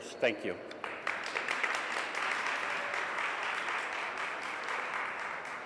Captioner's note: audience applauds